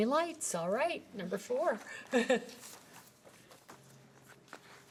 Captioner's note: chuckles